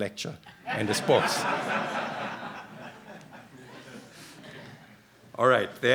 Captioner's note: laughter